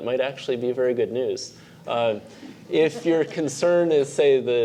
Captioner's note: laugh